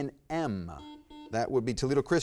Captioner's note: button beeping